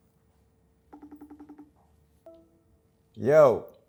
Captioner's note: phone ringing